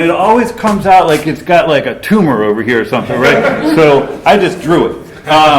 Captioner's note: laughter